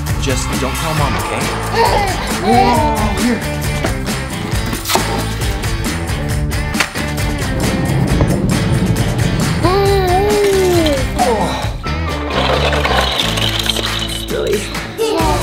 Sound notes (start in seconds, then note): 1.6 laughs; 4.5 upbeat music; 9.3 giggles enthusiastically; 11.1 groans; 12.2 toys clattering; 14.8 sighs